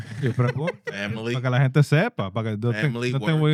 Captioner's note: speaking Spanish